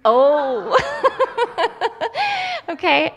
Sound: laughs

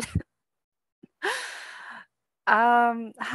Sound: laughter

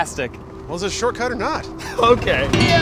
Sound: laughing

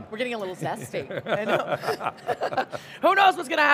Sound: laughs

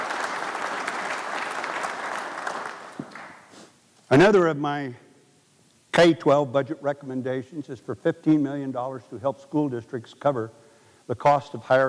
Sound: applause

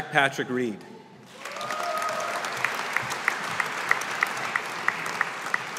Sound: audience applauding

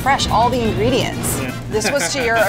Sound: laughs

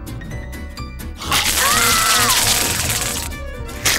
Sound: screaming

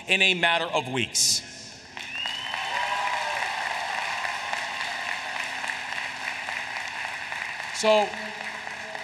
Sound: applause

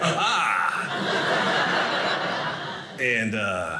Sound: audience laughing

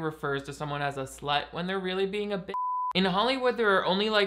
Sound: beep

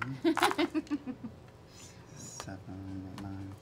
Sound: laughing

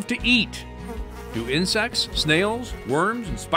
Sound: insects buzzing

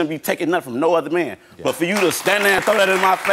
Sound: audience clapping

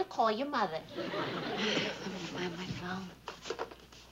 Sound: sighs

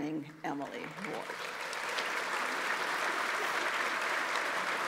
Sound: audience applauds

